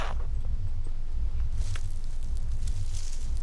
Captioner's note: zipper